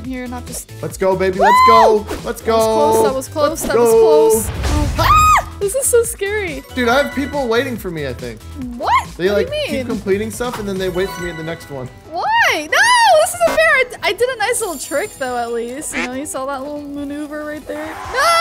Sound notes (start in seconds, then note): 5.0 screaming